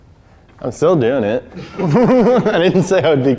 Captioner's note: crew laughing